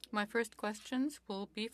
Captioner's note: speaking French